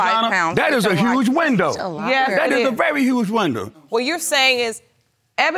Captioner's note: none